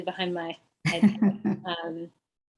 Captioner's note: laughs